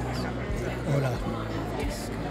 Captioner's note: in Portuguese